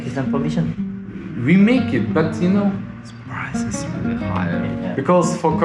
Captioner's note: suspicious whisper